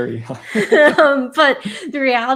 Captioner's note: laughing